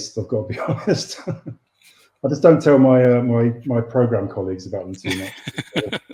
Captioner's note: laughs